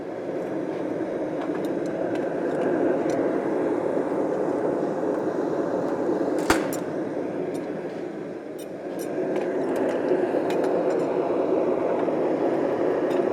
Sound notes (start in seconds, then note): 0.1 blast from the furnace; 6.3 oven door closes; 6.3 metallic banging